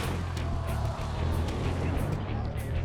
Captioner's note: crowd